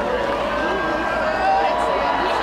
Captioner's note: applause